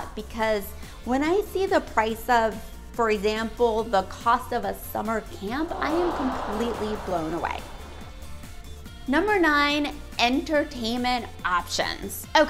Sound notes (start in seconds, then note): 5.6 crowd gasping